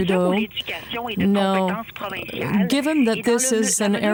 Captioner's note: speaking French